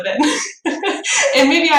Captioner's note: laughs